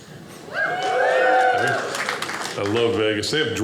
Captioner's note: audience cheers